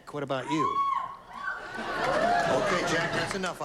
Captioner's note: squealing from audience